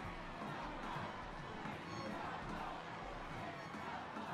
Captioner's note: crowd chanting